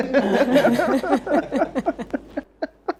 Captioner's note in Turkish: kahkaha